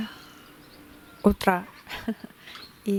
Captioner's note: laughs